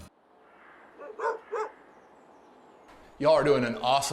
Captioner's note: dog barking